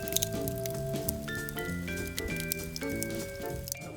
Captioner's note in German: Knistern